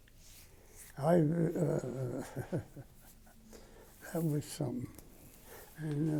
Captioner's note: laughs